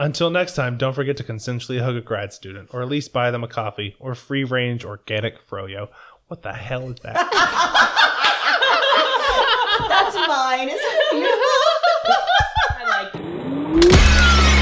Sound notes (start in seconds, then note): 7.1 laughter